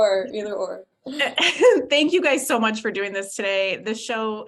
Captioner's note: laughs